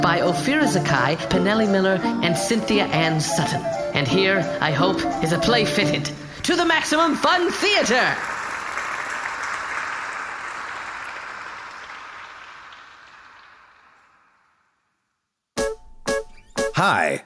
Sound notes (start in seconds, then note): 13.7 applause